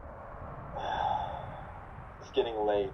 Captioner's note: sighs